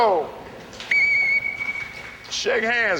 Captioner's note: whistle